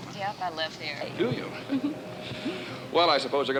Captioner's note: both chuckling